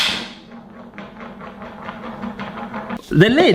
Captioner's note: lid rolling on the floor